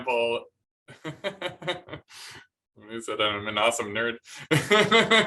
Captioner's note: laughter